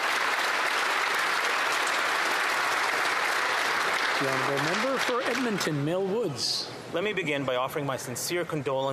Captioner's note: applause